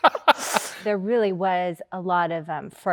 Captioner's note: Andrew laughs